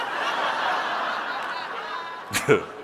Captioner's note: audience laughing